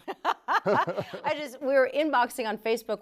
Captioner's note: laughing